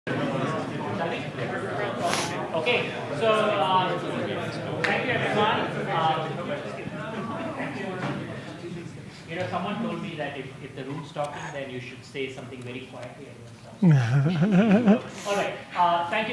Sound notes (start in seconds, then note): 0.2 audience chatting; 4.8 claps hands; 13.8 laughter